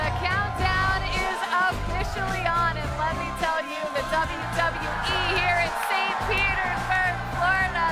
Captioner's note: applause